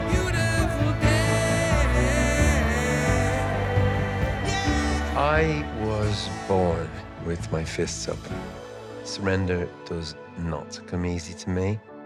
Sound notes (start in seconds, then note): 6.8 sighs